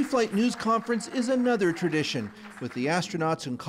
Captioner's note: applause